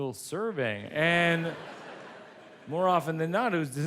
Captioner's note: audience laughs